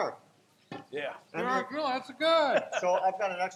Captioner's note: laughs